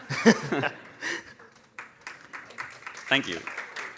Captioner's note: laughing; applause